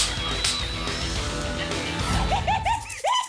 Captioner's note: hardcore rock music; fake gun firing; audience laughing; Morgan laughing maniacally